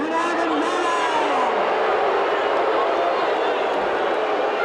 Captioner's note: audience booing